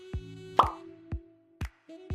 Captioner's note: pop